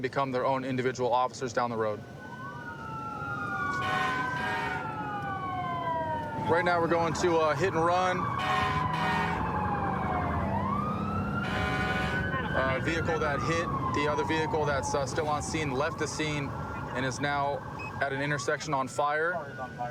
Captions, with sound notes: their own individual officers down the road. [emt sirens blaring] Right now, we're going to a hit and run. [emt sirens blaring] A vehicle that hit the other vehicle that's still on scene left the scene, and is now at an intersection on fire.